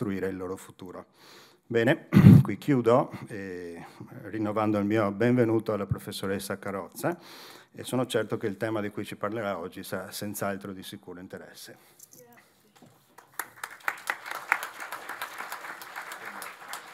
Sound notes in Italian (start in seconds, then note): 13.0 Applauso